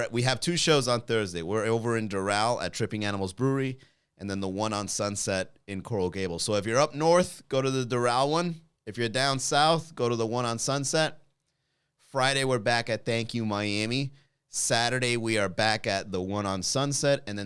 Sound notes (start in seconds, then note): none